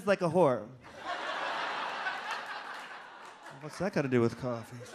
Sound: audience laughs

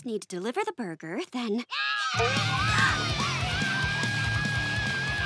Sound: screaming

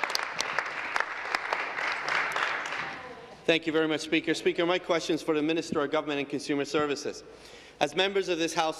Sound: applause

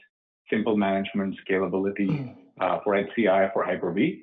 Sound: breathes heavily

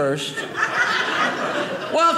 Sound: audience laughing

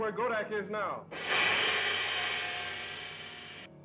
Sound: loud gong

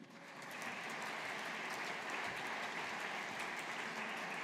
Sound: audience applauding

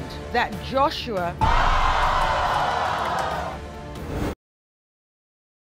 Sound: audience jeering

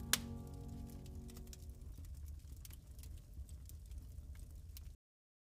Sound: fire crackling

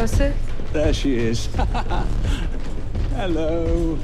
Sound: laughs

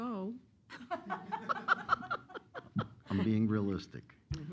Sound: laughter

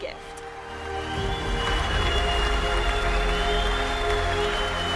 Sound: cheering and applause

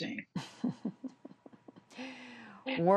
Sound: laughter

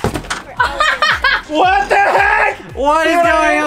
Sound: all laughing

